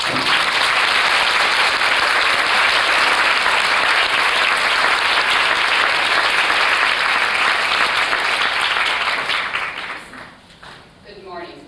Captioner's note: applause